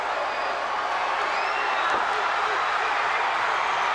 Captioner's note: crowd cheering